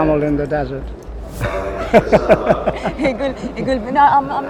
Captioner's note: laughing